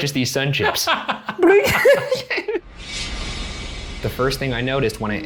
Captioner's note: laughing